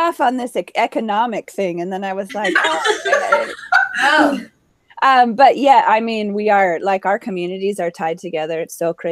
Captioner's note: laughing